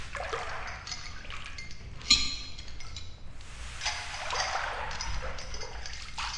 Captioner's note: clanging of hooks